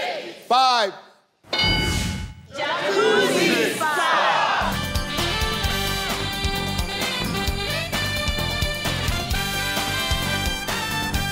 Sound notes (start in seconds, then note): 1.5 ding; 4.6 upbeat music